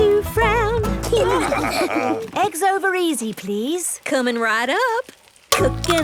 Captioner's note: laughing